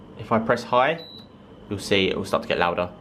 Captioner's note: dehumidifier beeping